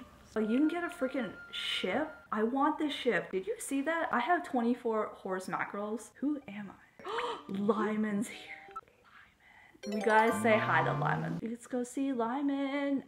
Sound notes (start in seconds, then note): 7.0 gasp; 8.6 whisper